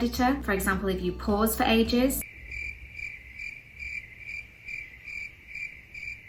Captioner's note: crickets chirping